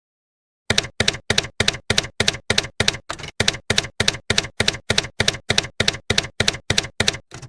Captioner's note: typewriter keys clacking